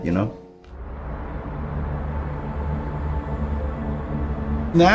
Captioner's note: city noises